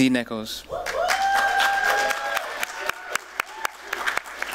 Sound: applause, cheering

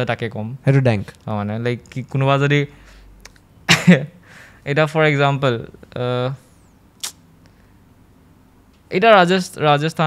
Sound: laughs

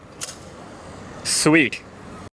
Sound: bicycle unlocks

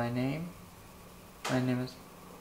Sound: tap

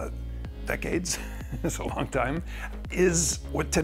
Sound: chuckles

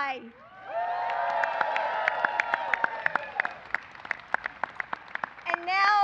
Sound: applause

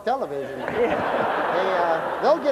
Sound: laughter

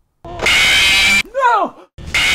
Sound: scream

